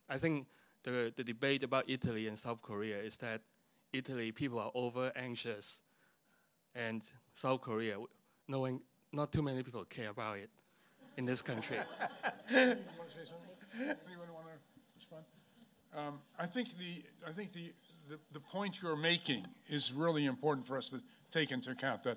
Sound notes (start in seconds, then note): 11.0 laughter